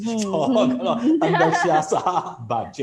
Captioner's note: laughs